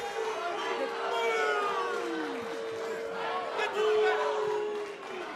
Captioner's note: fans chanting; cheers & boos